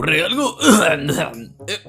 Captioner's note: clears throat